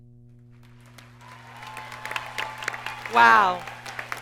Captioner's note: audience cheers and applauds